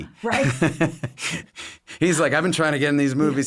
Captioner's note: laughs